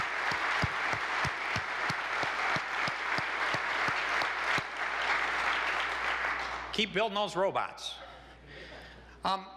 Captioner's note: applause